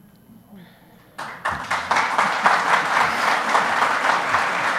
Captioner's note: audience applauds